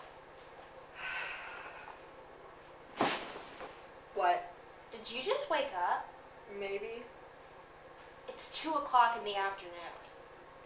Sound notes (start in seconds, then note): 1.0 Sherlock sighs